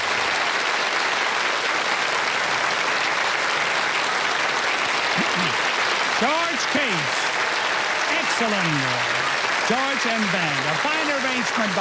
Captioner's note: applause